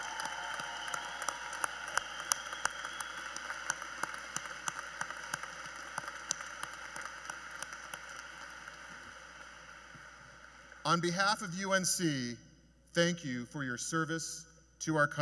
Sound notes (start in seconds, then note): 7.7 applause; 7.7 cheers and Applause